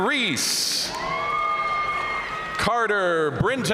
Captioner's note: audience cheering and applauding